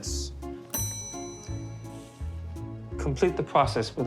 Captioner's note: bell chiming